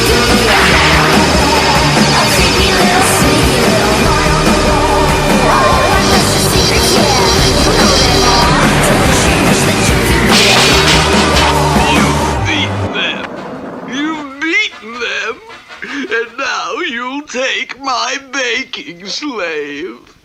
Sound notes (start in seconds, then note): 10.3 crash!; 20.0 King Cup cries hard